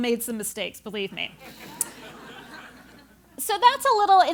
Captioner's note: laugh